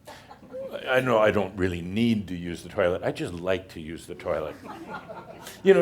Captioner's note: some chuckles